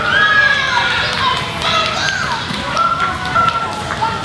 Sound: cheering

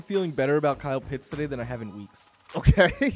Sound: laughs

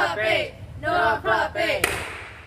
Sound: clap

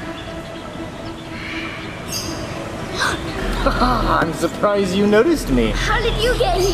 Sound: gasp

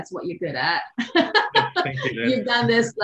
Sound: both laugh

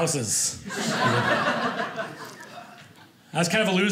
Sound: audience laughing

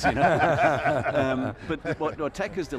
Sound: laughing

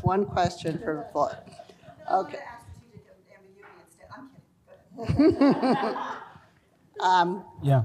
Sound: laughter

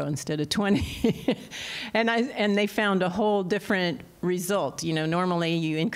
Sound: laughter

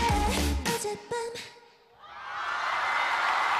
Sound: screams and Applause

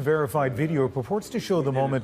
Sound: speaking Foreign Language

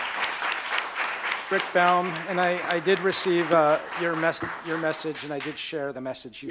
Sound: applause

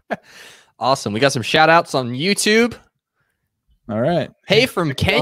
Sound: laughing

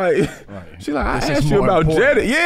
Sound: chuckles

